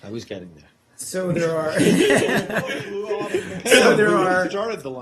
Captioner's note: laughter